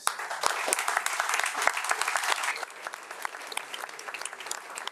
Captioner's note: crowd applauding